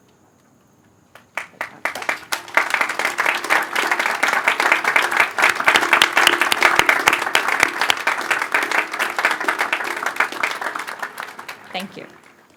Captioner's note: applause